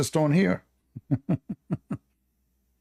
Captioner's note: Ketawa